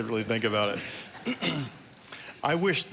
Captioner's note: congregation laughing